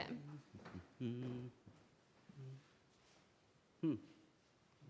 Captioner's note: kapdu hums